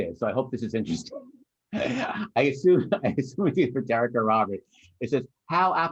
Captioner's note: laughter